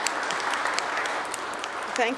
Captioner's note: applause